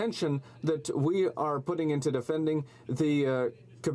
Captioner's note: speaking French